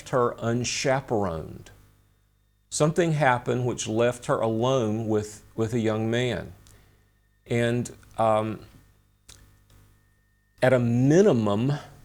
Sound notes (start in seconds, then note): 9.3 smacks lips